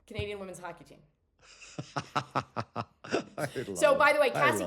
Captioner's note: laughs